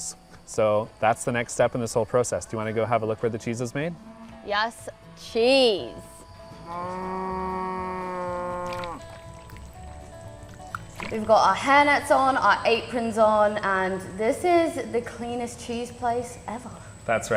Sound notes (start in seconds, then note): 6.6 cows mooing